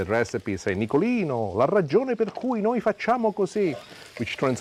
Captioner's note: speaking Italian